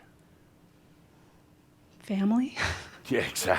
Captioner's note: she chuckles